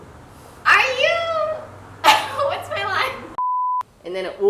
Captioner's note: cough